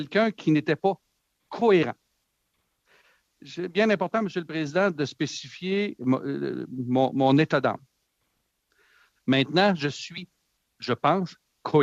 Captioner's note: speaking French